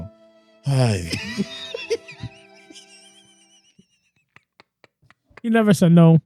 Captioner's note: laughing; clapping